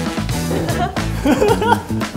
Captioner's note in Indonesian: Tertawa